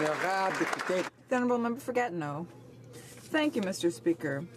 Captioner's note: some Applause